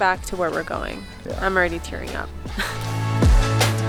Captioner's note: laughing gently; feel-good music continues